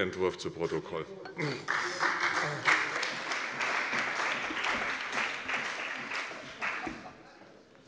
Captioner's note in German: Siehe Anlage 2 - Beifall bei der CDU und dem BÜNDNIS 90/DIE GRÜNEN